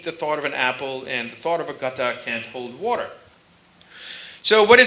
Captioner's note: sanskrit